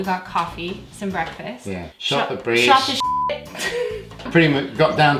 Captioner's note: beep